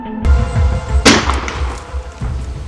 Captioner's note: gun Shot